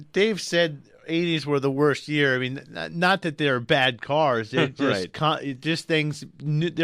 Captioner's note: laughs